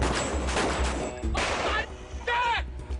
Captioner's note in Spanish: Disparos